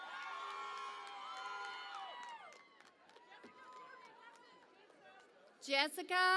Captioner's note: cheering and Applause